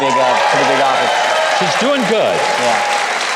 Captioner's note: audience applauding; audience cheering